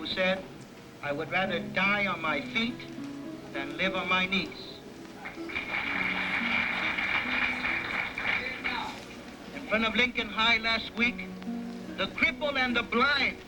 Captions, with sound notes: "I WOULD RATHER DIE ON MY FEET THAN LIVE ON MY KNEES." ( applause ) IN FRONT OF LINCOLN HIGH LAST WEEK THCRIPPLEDND THE BLD PARADED